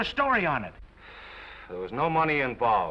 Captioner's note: Norman sighs